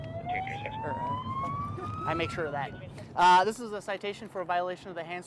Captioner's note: siren